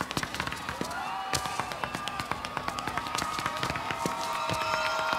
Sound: audience cheers and applauds

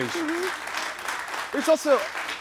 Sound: audience claps

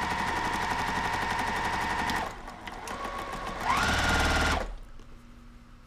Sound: sewing machine humming

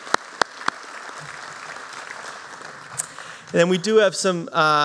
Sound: applause

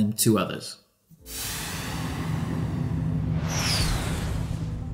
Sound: rocket whooshes

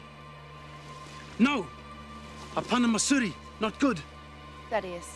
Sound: speaks foreign language

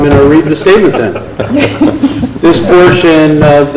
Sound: loud laughter

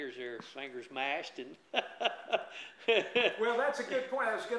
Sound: laughs

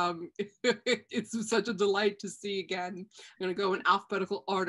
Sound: chuckles

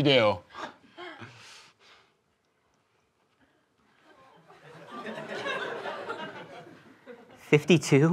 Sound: silence

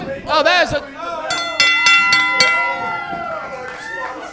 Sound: bell ringing

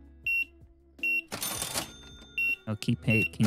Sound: beeping

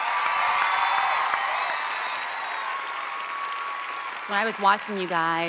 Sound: audience applauding

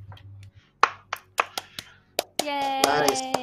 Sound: clapping

